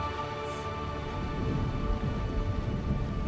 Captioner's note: thunder rumbling